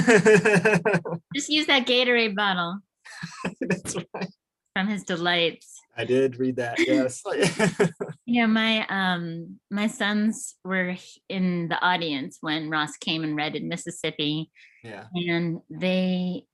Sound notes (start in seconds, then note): 0.4 laughs; 6.6 laughs